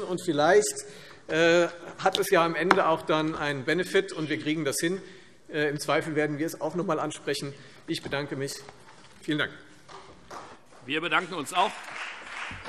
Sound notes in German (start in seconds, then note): 9.2 Beifall Freie Demokraten